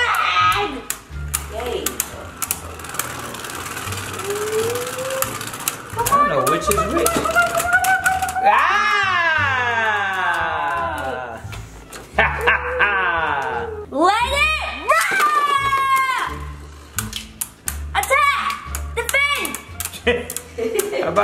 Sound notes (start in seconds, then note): 0.0 laughs; 9.1 yells in unison; 12.1 laughs; 16.0 knocking noises; 20.0 laughs